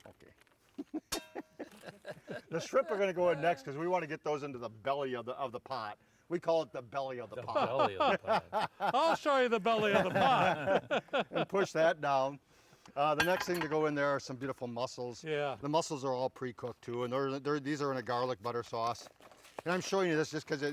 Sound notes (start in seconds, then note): 0.7 group chuckling; 7.3 group laughing